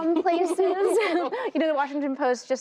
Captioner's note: laughter